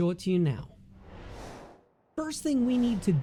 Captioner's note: air whooshing